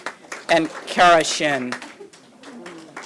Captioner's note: applause